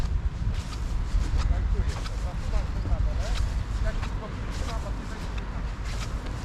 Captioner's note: air whooshing